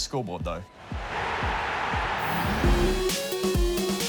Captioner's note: crowd roars